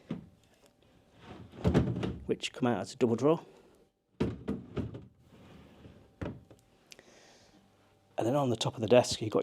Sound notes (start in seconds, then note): 1.5 drawer thuds; 4.2 drawer thuds